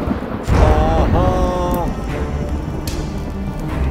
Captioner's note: Chanting